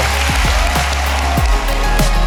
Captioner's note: audience applauding; bright music